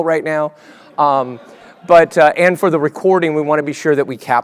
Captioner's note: laugh